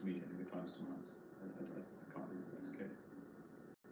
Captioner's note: mutters